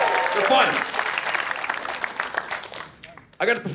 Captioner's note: audience cheering